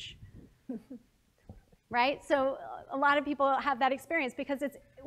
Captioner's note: laugh